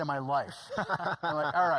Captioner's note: laughing